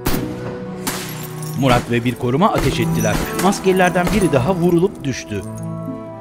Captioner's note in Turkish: Seken kurşun sesleri